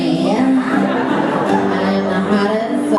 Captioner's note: crowd laughs